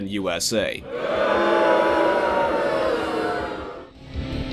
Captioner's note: booing